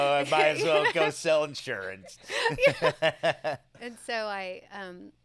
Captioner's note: laughs